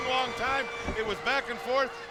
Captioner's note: bell ringing